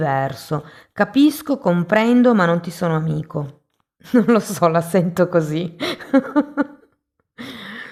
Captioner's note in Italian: risate